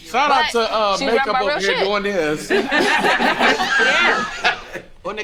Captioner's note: group laughing